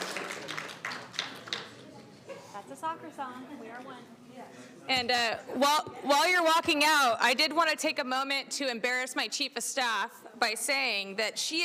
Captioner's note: applauding